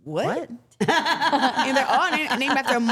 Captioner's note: everyone laughing